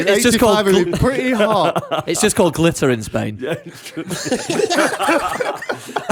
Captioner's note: laughter